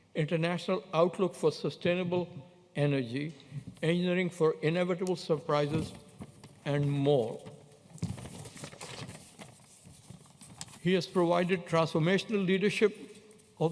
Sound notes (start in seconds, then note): none